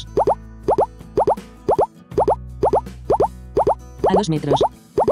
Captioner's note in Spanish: Frecuencia de sonidos cada vez más rápida